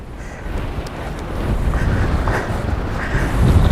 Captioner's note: windy